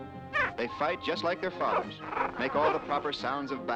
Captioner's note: snarling